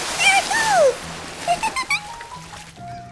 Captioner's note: laughs